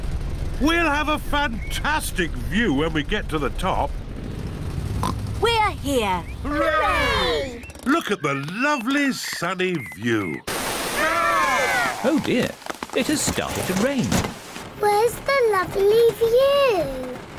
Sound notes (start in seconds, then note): 5.0 oinks